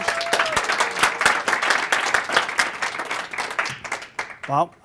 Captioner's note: applause